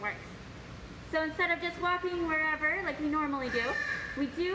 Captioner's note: bird squawk